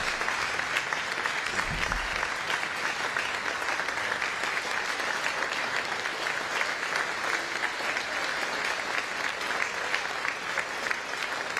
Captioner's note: applause